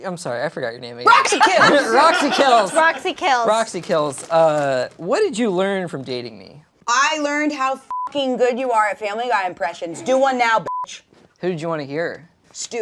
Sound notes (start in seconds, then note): 7.9 beep; 10.6 beep